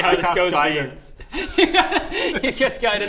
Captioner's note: laughs